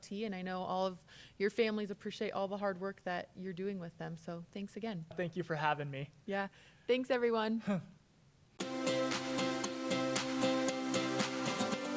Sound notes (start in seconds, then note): 7.6 chuckles; 8.6 bright music